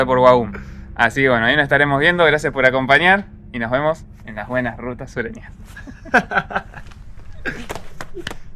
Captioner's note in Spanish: risas